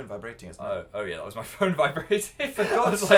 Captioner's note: laughs